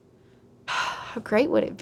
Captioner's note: relaxed Sigh